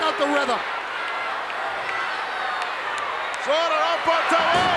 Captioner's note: crowd yelling